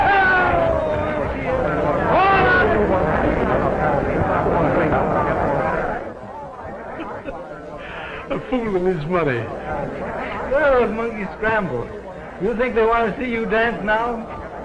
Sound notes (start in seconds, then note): 2.6 clamoring and chatter; 6.8 chuckling quietly